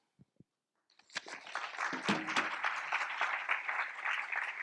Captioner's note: applause